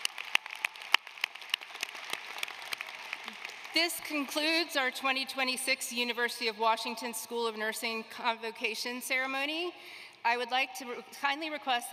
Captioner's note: applause